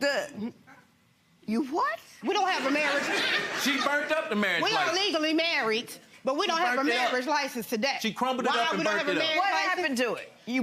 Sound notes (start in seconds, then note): 2.4 audience laughing